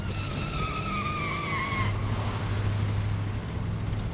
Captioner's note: tires squealing